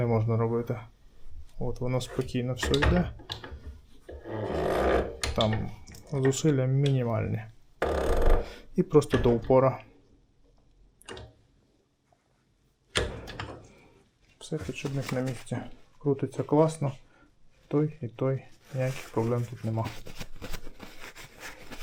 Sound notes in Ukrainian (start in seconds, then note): 9.9 сопіння